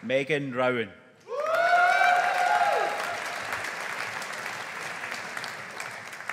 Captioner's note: audience applauding